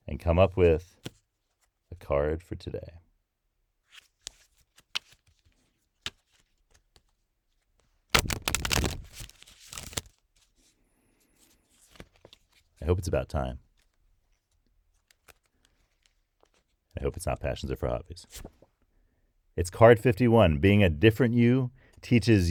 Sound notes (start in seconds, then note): 4.0 shuffles cards